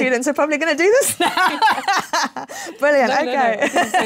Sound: laughs

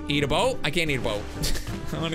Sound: laughs

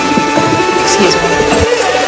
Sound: dishes clanking

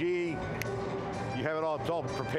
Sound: finger snap

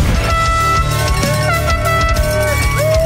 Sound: dramatic music; crowd; air horn; crowd; dramatic music

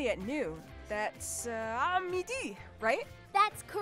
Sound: speaking in French

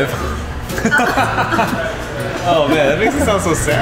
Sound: laughing

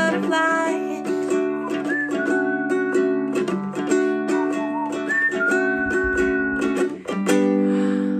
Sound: whistling

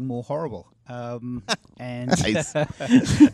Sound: laughs

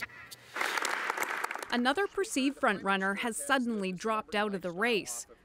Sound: applause

